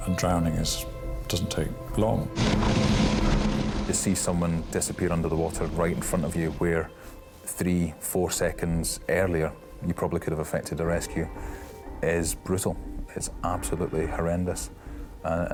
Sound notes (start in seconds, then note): 2.3 lifeboat engine whirring